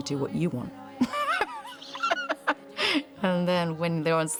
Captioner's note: laughs